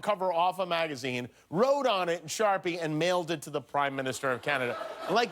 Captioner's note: laughter